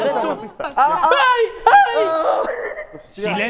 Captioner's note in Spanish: gritan